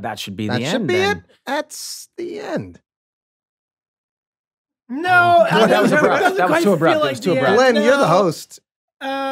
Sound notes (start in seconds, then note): 5.1 Rob laughs